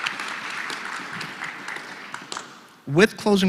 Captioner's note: applause